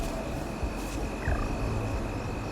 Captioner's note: electronic beeping